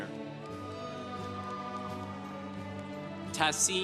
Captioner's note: congregation applauding